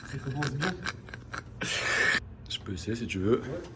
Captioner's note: laughs